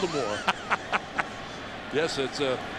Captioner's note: laughs